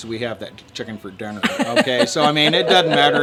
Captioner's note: laughing